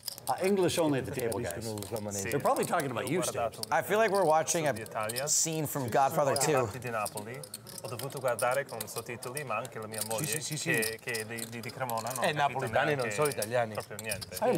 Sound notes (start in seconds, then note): 7.3 speaking in Italian; 10.1 replying in Italian; 11.0 speaking in Italian